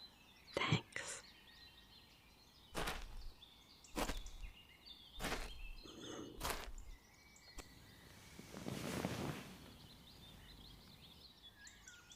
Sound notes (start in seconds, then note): 0.0 exhale; 2.7 footsteps, rustling as she sits